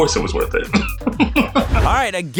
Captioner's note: laughing